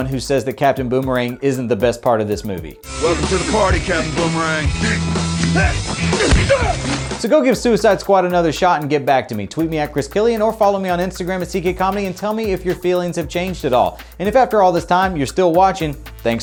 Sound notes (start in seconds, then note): 5.5 Captain Boomerang grunting